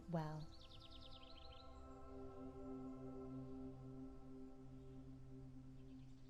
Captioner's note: gentle music; birds chirping